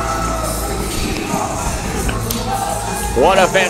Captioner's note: rap music; crowd cheering